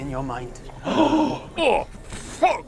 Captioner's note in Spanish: Bocanadas horrorizadas